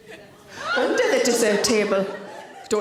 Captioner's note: audience member gasps